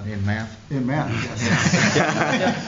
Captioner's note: laughter